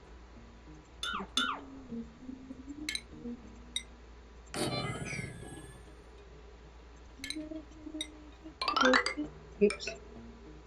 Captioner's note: very low humming